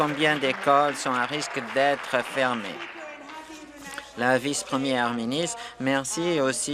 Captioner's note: applause